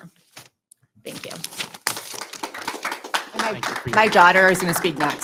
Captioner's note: audience applauding